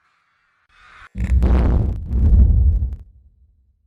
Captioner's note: thunderous explosion